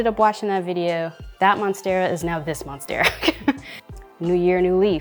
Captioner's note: chuckling